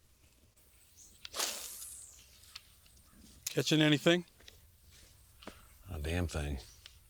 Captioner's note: line whirring